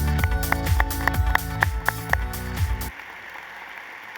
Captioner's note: applause